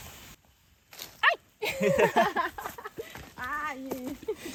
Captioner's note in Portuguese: Risadas